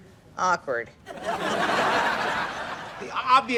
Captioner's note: laughs